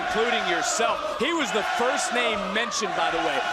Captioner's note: crowd chants "melo"